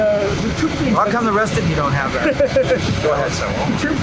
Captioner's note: laughter